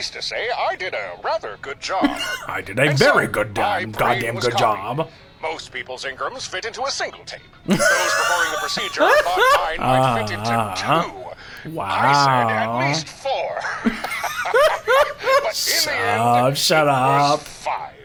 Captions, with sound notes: I did a very good, goddamn good job. (laughs) Wow. (laughs) Shut up, shut up.